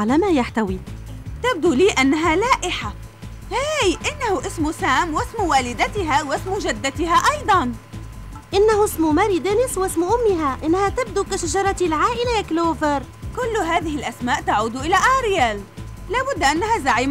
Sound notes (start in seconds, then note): none